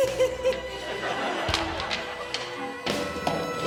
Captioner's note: exclaims; giggling; circle slapping on floor; audience laughing; circles clattering